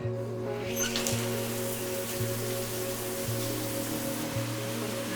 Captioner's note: shower running